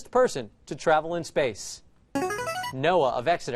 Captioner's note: answer bell